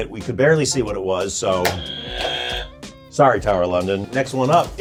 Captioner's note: buzzer buzzing